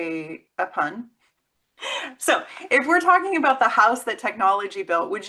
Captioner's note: laughs